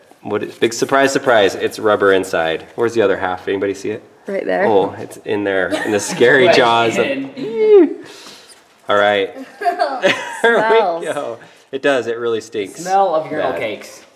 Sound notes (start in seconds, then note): 4.3 voiceover; 9.3 laughing; 9.5 voiceover